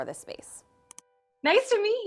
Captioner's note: button clicks